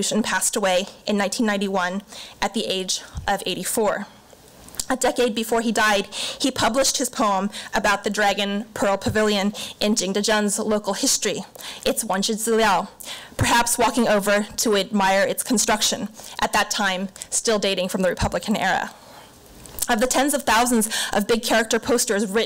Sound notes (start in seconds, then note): 12.3 foreign language